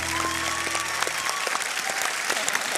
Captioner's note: cheering and applause